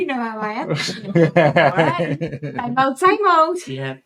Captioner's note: laughter